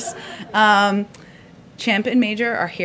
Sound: laughter; laughs

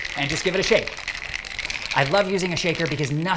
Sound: cocktail shaking

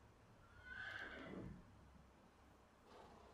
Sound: horse neighs

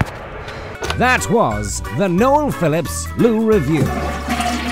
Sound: voiceover

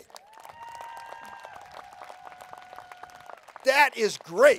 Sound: applause

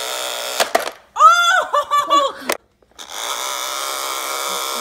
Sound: laughs

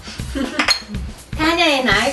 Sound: giggles

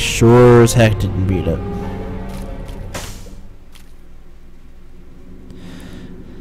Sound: sigh

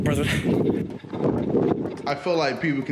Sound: wind blows

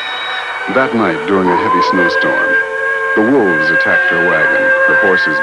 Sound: intense music; wolves howling

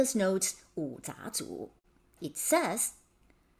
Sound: speaking in Mandarin

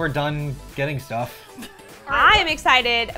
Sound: laughs

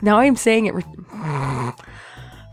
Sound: irritated snort

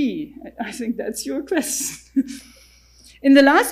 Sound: chuckles

